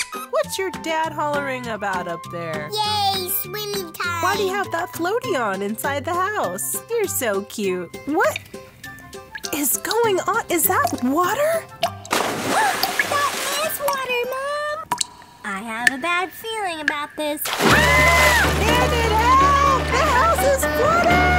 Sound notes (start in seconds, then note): 15.1 gasp